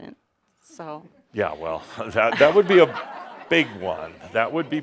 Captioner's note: some laughter